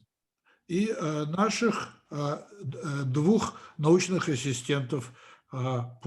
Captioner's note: translator speaking Russian language